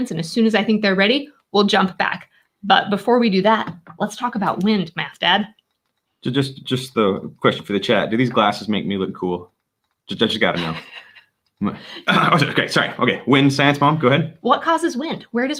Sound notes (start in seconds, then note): 10.5 laughing